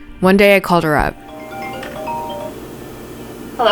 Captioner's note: ringtone